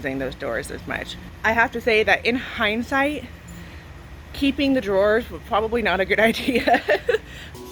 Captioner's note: laughs